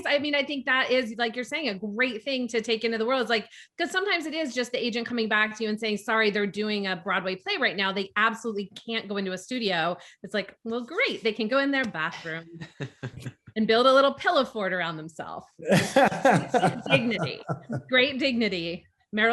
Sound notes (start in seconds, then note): 15.6 group laughs